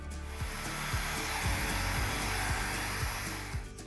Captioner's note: blower whooshing